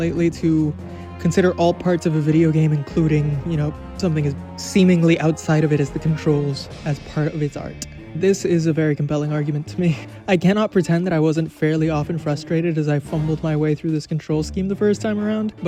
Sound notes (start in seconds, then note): none